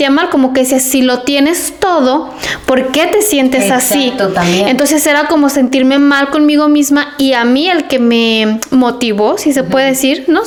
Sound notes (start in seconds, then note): none